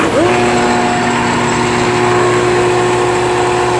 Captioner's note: whirring